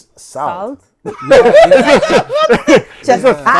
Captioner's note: laughter